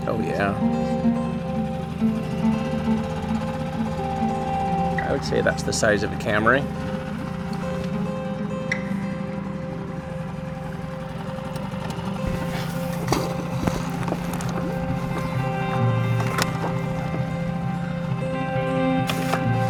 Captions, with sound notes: Oh yeah. I would say that's the size of a Camry. (light music) (water splashes) (light intense music)